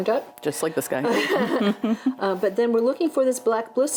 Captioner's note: both laugh